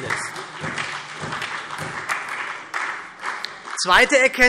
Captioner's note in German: Beifall SPD